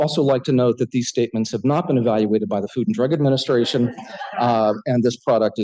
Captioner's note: laughter